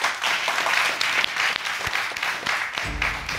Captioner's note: audience applauds